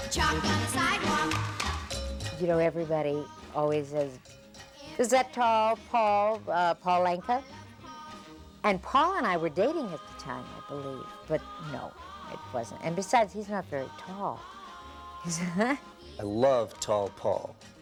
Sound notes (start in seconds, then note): 15.3 chuckles